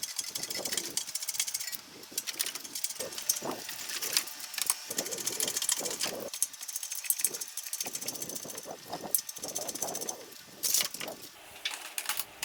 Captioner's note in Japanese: 作業音